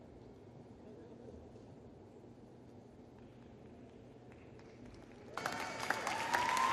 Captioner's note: applause